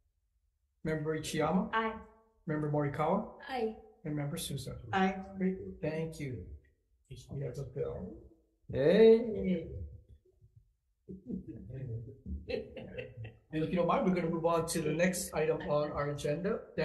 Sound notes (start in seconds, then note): 12.4 all laugh